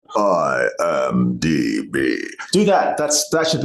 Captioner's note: deep tone